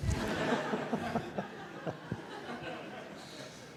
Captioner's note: audience laughs